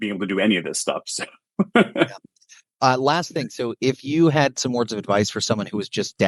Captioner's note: laughs